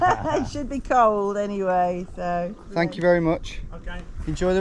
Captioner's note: laughs